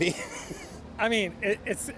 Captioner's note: laughter